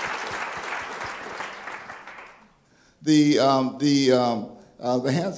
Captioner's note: applause